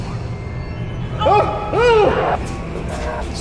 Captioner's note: gasps